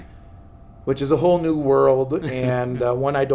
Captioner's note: laughs